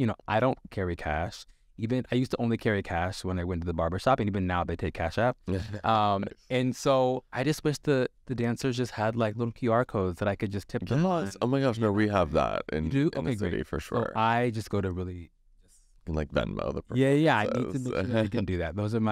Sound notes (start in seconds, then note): 5.4 Sasha laughs